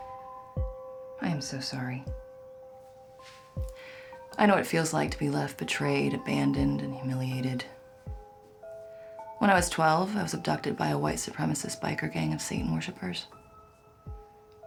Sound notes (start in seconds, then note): none